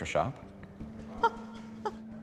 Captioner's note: laughing